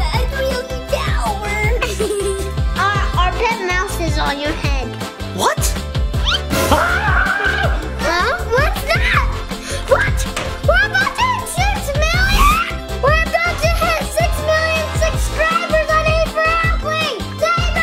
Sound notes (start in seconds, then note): 1.7 giggling; 6.2 yelling